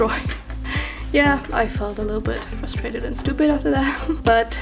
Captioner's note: laughs